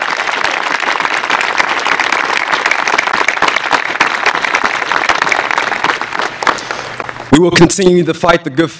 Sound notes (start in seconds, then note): 4.5 applause